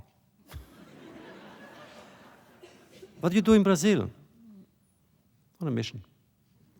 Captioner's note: laughter